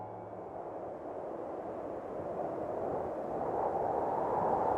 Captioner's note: wind howling